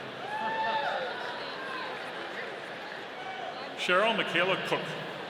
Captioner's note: audience cheering